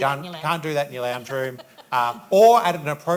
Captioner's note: laughs